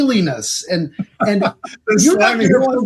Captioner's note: laughing